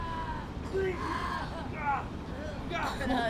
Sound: crying

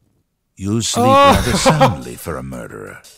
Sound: laughing

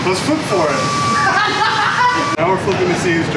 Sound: laughs

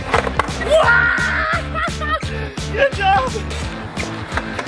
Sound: hollering

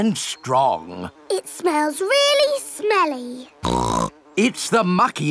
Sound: snorts

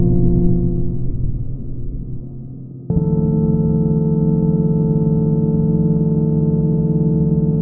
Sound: tone pauses, then resumes at higher pitch

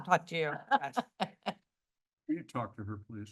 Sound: laughter

